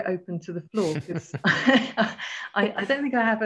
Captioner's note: both laughing